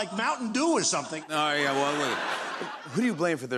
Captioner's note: laughter